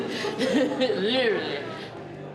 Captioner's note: laughs